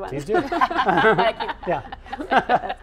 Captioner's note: laughing